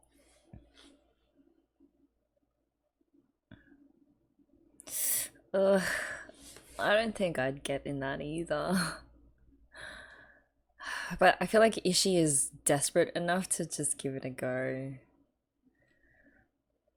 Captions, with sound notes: [sharp inhale] Ugh... I don't think I'd get in that either. but i feel like if she is desperate enough to just give it a go